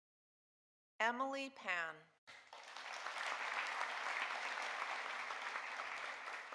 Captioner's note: audience applauding